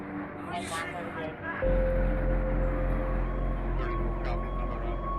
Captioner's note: sirens